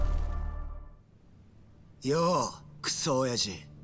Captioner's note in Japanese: none